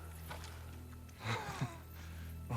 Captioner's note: laugh